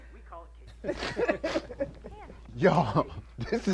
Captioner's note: Cedric and Terra laugh